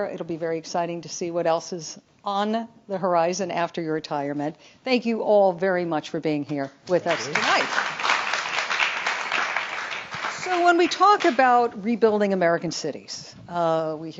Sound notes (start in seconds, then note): 7.0 audience clapping